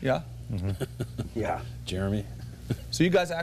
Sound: laughter

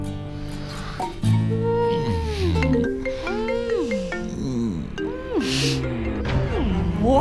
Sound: kissing sounds, moaning; phone ringing

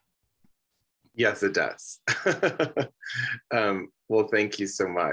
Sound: laughs

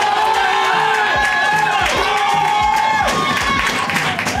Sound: crowd cheering

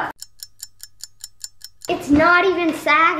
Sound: ticking

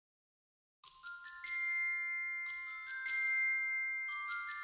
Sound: twinkling

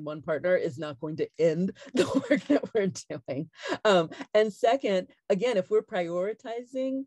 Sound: laughs

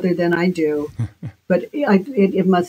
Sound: Dave chuckles

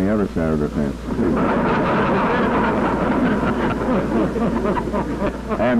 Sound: laughter

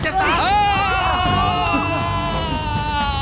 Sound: screaming

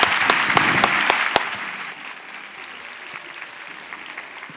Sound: cheers and applause

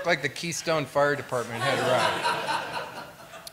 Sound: laughter

